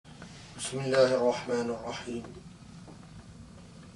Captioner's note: in Arabic